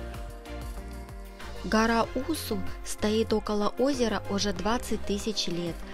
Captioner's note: voiceover